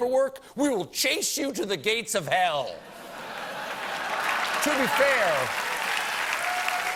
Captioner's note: cheers and applause